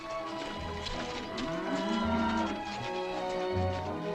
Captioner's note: cattle mooing